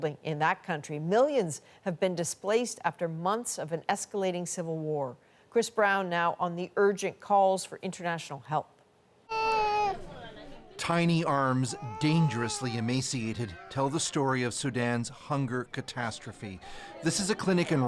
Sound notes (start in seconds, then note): 11.4 baby crying